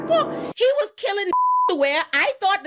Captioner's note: beep